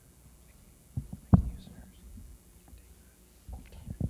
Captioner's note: man whispers